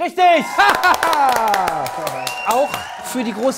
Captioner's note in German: Jubel, Pfiffe